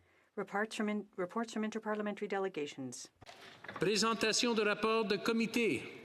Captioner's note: speaking French